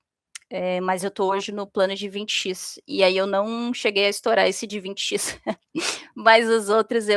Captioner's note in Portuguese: risadas